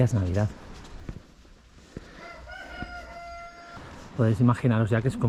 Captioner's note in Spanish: Gallo cantando